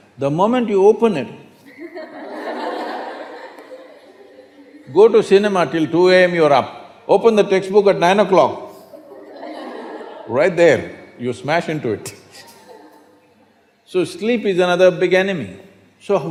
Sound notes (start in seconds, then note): 1.6 laughter; 8.8 laughter; 12.2 laughs